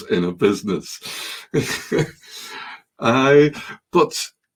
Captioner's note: chuckling